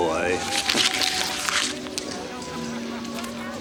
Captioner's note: paper rustles